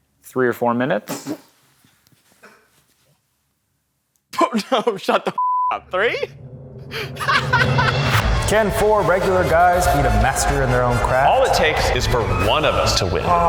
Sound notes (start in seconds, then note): 5.4 beep; 6.9 laughing loudly